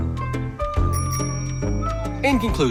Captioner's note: bright music; bell dings